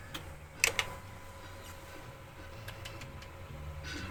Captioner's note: clicking